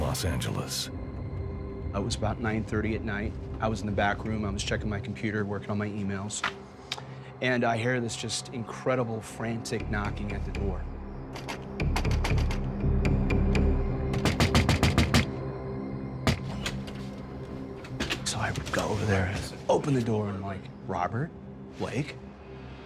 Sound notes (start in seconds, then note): 6.6 knocking